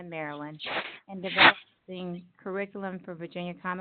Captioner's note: sliding static